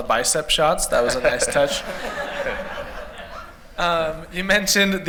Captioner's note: laughter